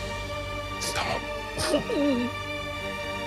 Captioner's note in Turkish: Ağlıyor